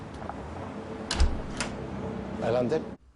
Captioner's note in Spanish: Ruido de la puerta